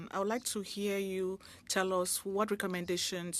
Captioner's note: speaking French